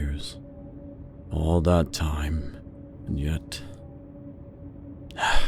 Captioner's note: sigh